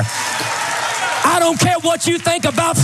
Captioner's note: applause